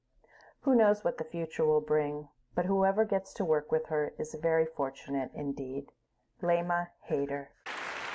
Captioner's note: applause